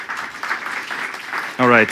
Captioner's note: applause